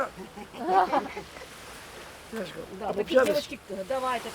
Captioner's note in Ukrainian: грецька мова